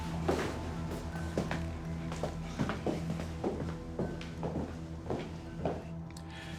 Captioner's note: footsteps